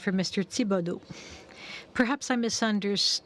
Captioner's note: speaking French